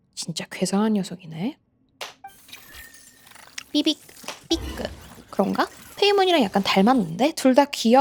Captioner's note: beep-beep